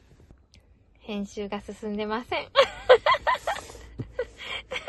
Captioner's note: laughs